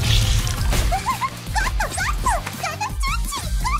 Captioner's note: giggles